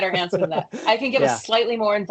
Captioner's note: laughs